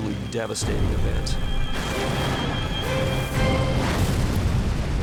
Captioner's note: explosions